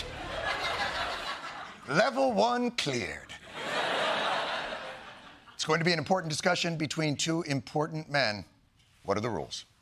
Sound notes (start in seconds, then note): 0.0 laughter; 3.4 laughter